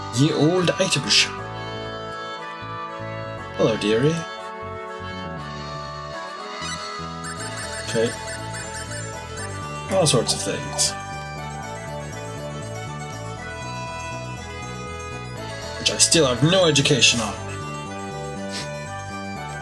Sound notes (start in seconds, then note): none